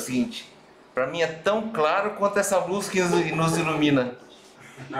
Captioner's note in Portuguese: risos